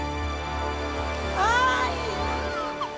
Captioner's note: baby cries